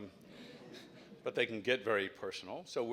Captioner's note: laugh